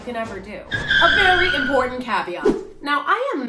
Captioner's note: tire screech sound